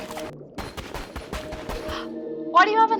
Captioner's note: gasps